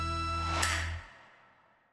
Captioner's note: click